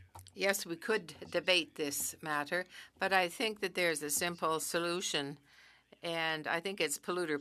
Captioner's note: speaking French